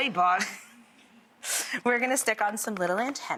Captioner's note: laughing